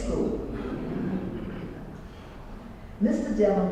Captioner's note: laugh